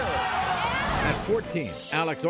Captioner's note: audience groans